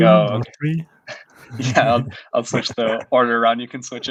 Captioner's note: laughing